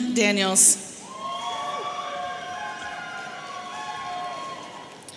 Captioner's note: audience cheering